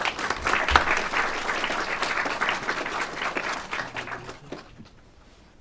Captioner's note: clapping